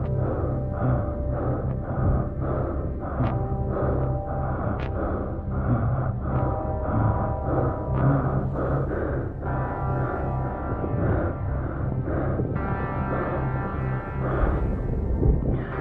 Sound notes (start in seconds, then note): 0.7 breathing hard continues; 7.8 eerie music continues